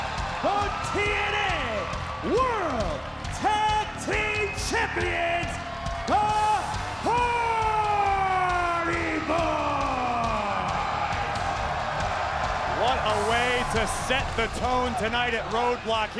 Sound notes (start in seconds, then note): 11.3 crowd cheering; 12.0 upbeat music continues